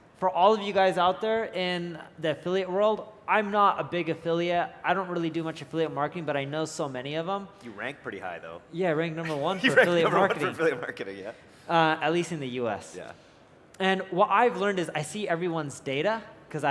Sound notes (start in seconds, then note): 9.2 laughs